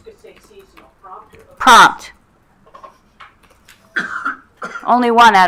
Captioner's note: speaker speaking faintly